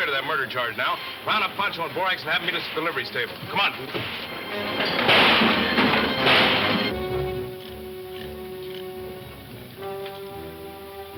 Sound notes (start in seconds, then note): 4.7 guns firing; 6.3 soft suspenseful music